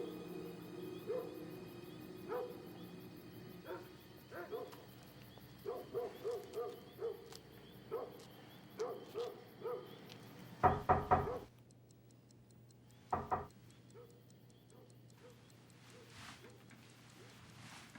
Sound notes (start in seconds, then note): 9.5 clock ticking; 10.6 knocking